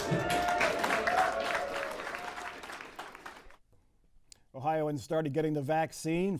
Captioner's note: cheers and applause